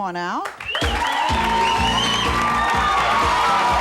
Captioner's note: audience cheers